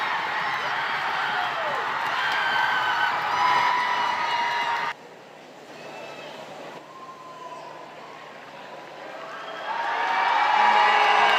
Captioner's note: cheering